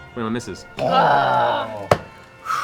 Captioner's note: groaning